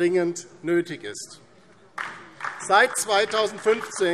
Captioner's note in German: Beifall DIE LINKE